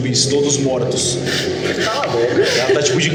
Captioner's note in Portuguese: risos